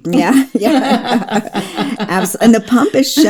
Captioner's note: both laugh